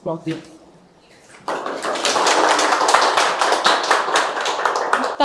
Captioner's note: applause